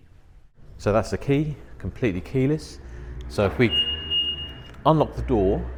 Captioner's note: beep beep